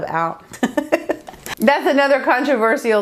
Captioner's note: laughs